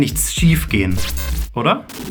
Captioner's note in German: glitching